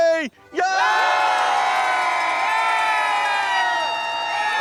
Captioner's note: everyone screams